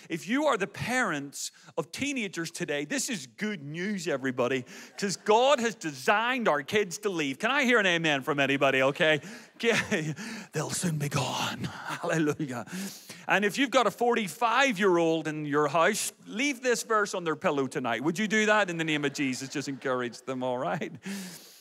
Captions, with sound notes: If you are the parents of teenagers today, this is good news, everybody. 'Cause God has designed our kids to leave. Can I hear an amen from anybody, okay? (laughs) They'll soon be gone, hallelujah. And if you've got a 45-year-old in your house, leave this verse on their pillow tonight, would you do that? In the name of Jesus, just encourage them, all right?